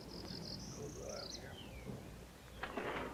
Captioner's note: birds chirping